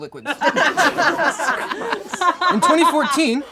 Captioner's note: all laugh